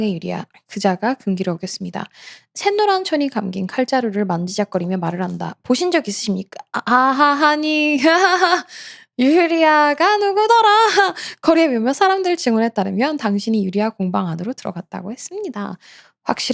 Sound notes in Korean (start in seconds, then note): 8.6 헉 소리